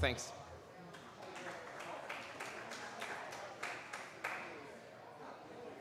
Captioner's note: applause